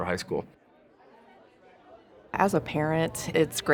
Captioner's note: students chattering